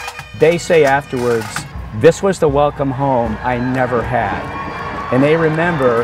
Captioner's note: cheering